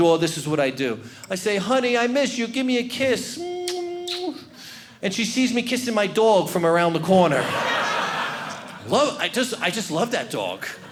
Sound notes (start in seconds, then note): 7.3 audience laughing; 10.6 audience laughing